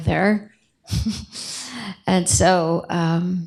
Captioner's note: chuckles